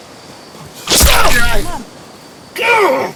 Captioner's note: flesh squelches; Tex groans